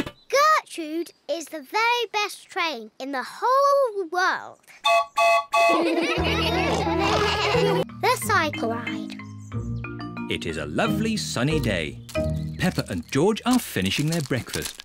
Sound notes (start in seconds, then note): 4.8 toots horn; 5.7 all laugh